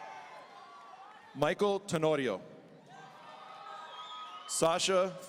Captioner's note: audience cheering; audience cheering